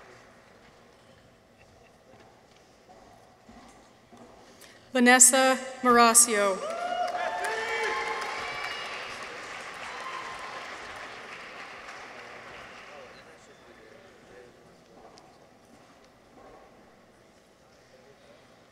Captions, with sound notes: Vanessa Marascio. -(people cheer) -(audience applauds)